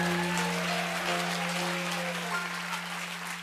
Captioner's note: applause